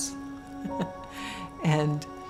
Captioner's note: chuckling